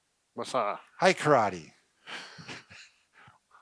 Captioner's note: chuckles